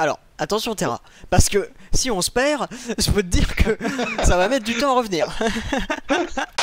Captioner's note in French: rire